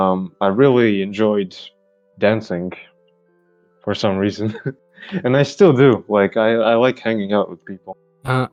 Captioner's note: laughs